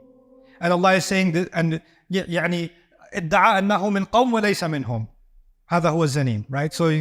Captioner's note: Arabic